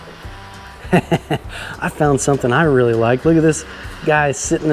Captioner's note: laughs